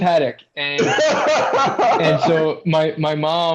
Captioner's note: laughter